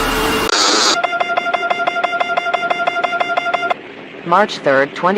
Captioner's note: alarm